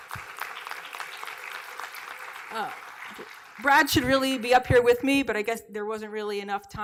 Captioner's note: applause